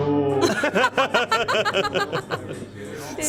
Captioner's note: laughter